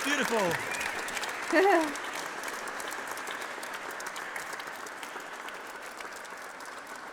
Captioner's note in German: Chor applaudiert; Chormitglied pfeift